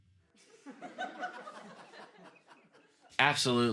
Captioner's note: audience laughter